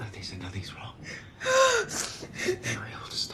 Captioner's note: gasping